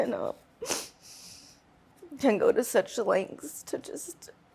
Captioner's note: voice breaking; sniffles